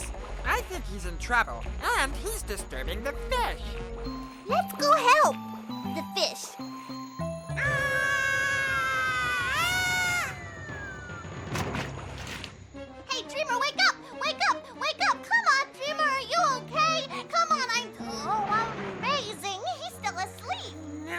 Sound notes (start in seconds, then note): 7.5 The world's most terrible Tarzan yell ever; 11.4 literally screaming underwater